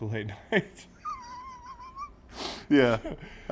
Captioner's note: laugh